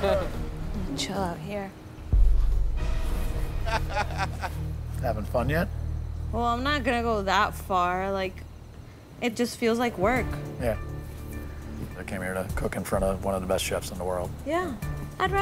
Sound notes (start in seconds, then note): 3.6 laughs